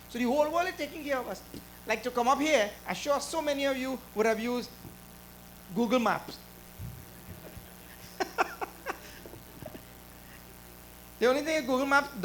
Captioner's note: laughter